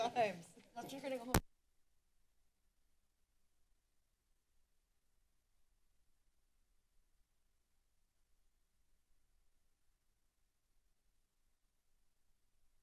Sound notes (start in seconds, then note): 0.0 background conversations; 1.7 silence